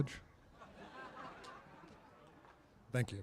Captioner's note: laughter